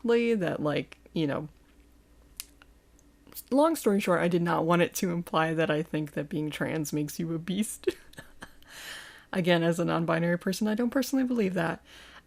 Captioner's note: haha